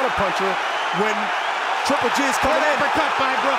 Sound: crowd roaring

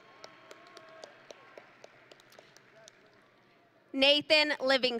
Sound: audience and graduates applauding

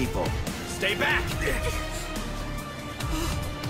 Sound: students gasp; long gasp

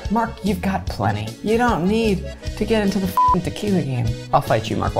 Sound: beep

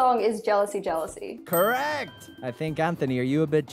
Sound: bell dings

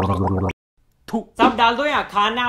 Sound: spit

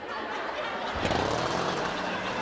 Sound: whirring

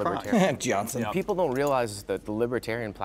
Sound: laughing

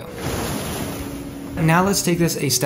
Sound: waves crashing

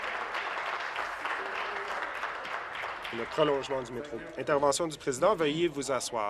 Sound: applause

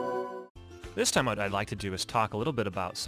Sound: voiceover

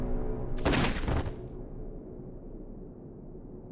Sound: gunshot

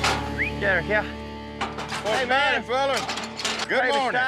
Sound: whistles

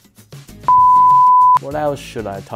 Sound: beeps

